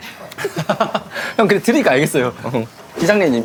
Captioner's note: voice impression